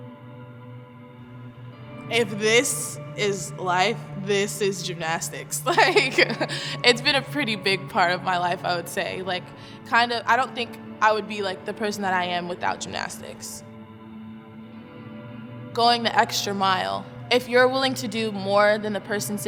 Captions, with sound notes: If this is life, this is gymnastics (laughs). It's been a pretty big part of my life I would say. I don't think I would be the person that I am without gymnastics. Going the extra mile, if you're willing to do more than the person